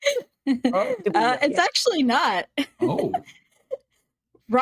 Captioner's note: giggling